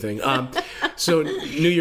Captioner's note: laughs